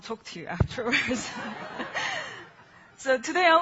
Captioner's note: laughing